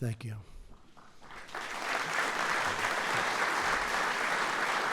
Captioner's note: applause